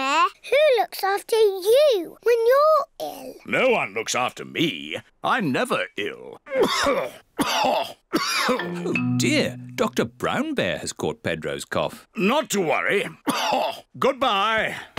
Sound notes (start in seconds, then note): 7.3 coughs; 13.2 coughs